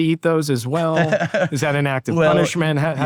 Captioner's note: laughs